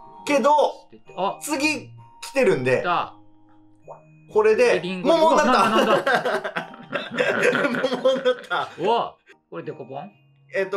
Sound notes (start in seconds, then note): 5.4 laughing